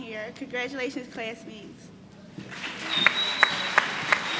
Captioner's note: applause